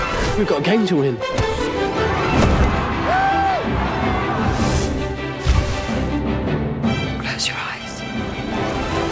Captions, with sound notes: We've got a game to win! [RON CHEERS] [CROWD CHEERING] Close your eyes.